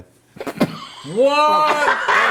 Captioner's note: laughing